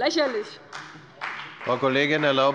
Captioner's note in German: Beifall bei dem BÜNDNIS 90/DIE GRÜNEN und der CDU